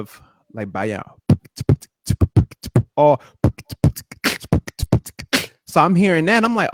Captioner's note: beat-boxing